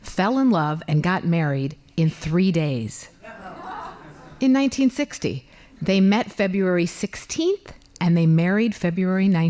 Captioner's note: laughing